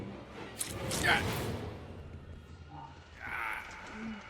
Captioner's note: knife into flesh - Wes grunts in pain